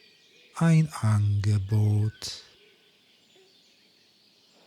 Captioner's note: german